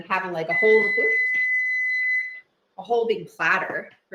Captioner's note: oven beeps